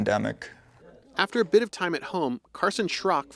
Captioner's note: voice-over